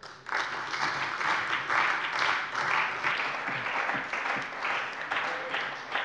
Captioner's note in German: Beifall bei der CDU und dem BÜNDNIS 90/DIE GRÜNEN